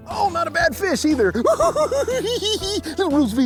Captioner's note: giggles